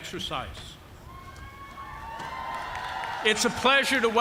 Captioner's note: cheers and applause